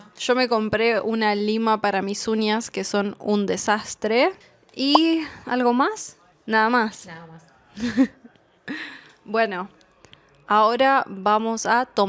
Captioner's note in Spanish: risas